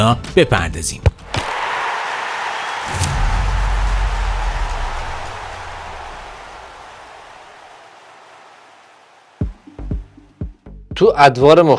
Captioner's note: cheers